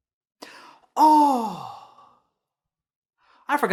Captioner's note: gasp